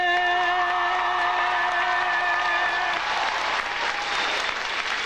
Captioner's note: audience applauding